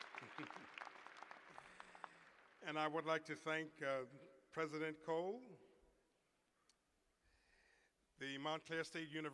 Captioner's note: cheers and applause